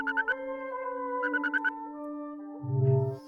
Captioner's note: phone rings